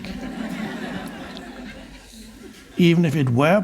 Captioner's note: audience laughs